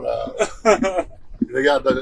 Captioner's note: host laughs